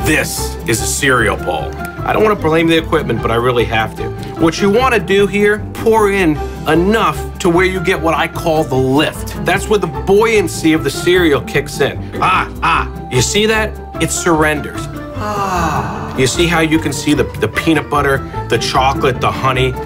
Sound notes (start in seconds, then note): 15.1 sighs